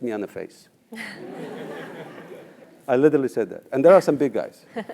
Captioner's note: laugh